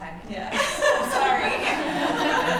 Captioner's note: laughter